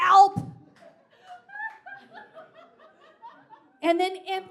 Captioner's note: audience laughs